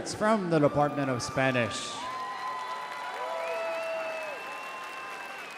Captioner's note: audience cheering